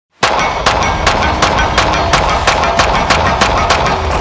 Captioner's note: gunfire popping